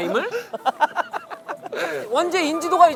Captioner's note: laughing